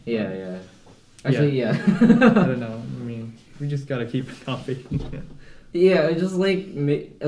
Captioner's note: laughter